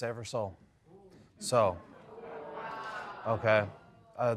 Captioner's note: audience murmuring